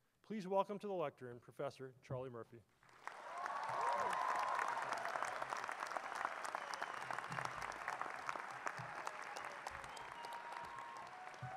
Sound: audience applauds

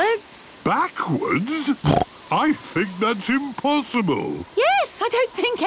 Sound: snorting

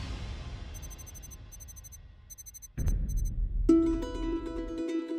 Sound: electronic beeping; lighthearted instrumental music

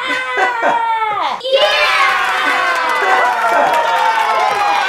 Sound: applause

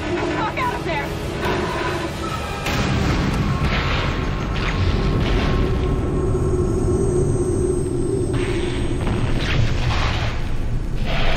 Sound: crashing, ears ringing

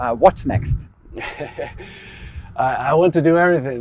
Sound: chuckles

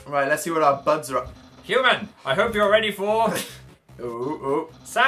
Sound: laughs

